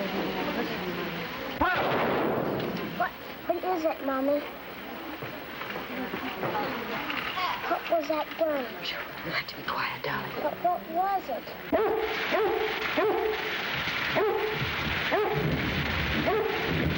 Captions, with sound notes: (crashing) - What, what is it mommy? What was that noise? - You have to be quiet darling. - But what was it? (dogs barking)